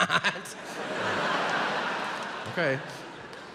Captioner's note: giggles; audience laughs